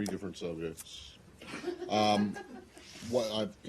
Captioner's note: laughter